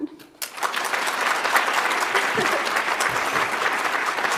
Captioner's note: audience applauds